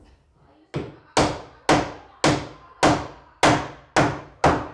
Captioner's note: hammer knocking